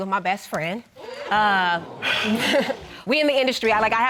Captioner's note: crowd gasping